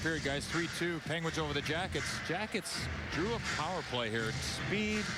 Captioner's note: crowd noise